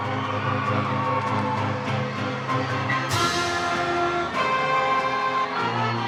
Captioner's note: triumphant music; all cheering; attendees applaud